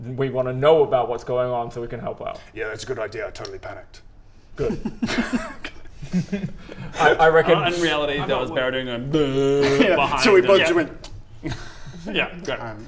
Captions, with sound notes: we wanna know about what's going on so we can help out yeah that's a good idea I totally panicked Good *nervous giggles* I...I reckon In reality that was Baradun going *drrrrrrr* - behind him - Yeah so we both just went yep, great